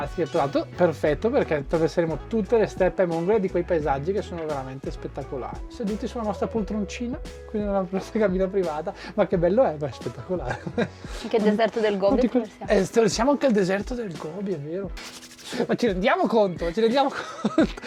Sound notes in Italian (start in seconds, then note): 10.4 risate